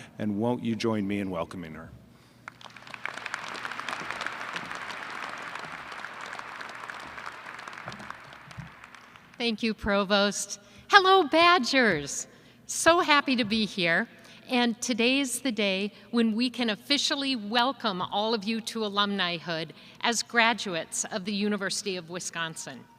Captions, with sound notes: And won't you join me in welcoming her. [ Applause ] >> Thank you, Provost. Hello, Badgers! So happy to be here. And today is the day when we can officially welcome all of you to alumnihood as graduates of the University of Wisconsin.